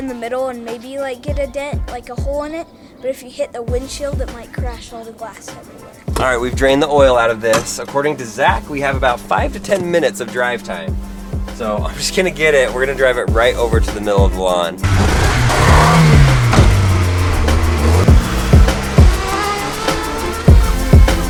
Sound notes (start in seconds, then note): 15.0 engine revving; 18.4 intense music